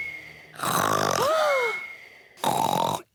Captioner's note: snores loudly; lady pigs gasp; both giggle; continues to snore